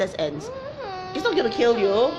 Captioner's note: child groans